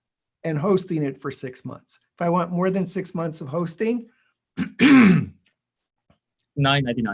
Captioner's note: clears throat